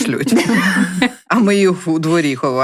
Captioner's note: laughter